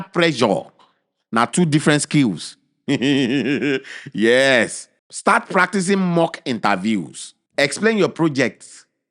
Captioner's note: chuckles